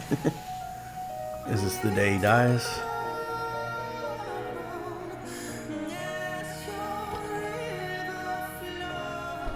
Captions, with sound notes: (chuckles) Is this the day he dies?